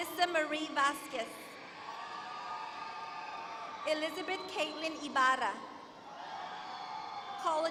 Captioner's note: applause